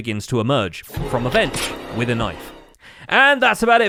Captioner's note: Among Us stab sfx